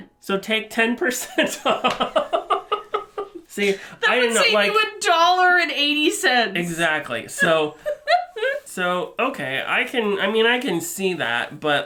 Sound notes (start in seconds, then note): 1.8 laughing; 7.4 chuckles